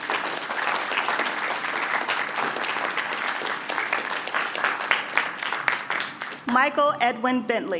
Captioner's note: applause